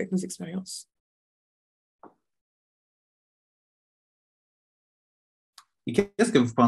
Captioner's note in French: silence